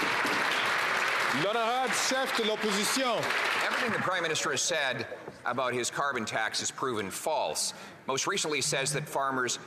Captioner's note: some Applause